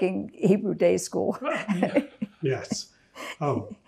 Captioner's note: laughing